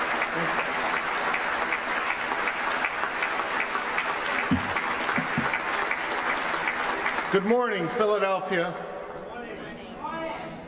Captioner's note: applause